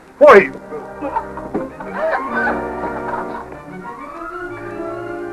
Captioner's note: laughs